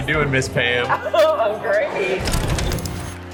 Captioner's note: laughter